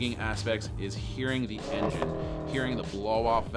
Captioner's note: car engine ignites; car engine roars